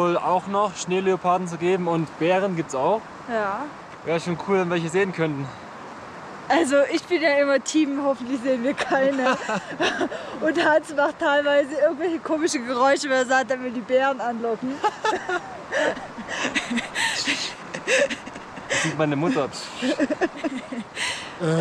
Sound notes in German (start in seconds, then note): 14.6 Gelächter; 18.0 macht komische Laute